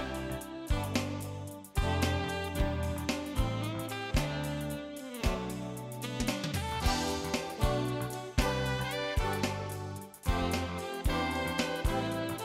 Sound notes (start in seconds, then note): none